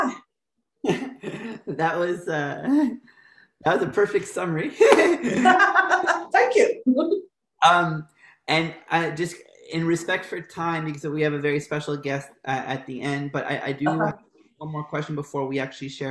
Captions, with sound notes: . YEAH. >> THAT WAS A PERFECT SUMMARY. [LAUGHTER] >> THANK YOU >> AND IN RESPECT FOR TIME, BECAUSE WE HAVE A SPECIAL GUEST AT THE END. BUT ONE MORE QUESTION BEFORE WE SHARE OUR